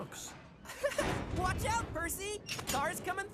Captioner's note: chuckles